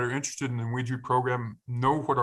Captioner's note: speaking in foreign language